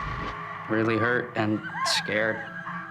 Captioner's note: Maggie screaming